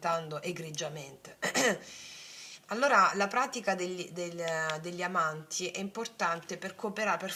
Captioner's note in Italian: schiarire la voce